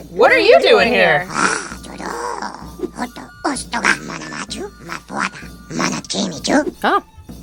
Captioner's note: speaking ewok